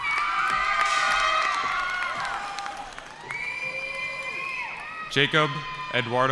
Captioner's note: cheering